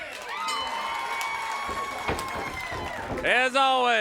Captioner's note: crowd cheering